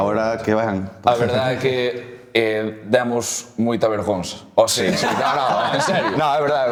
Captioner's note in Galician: risas